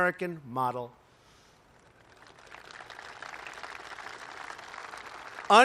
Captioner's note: applause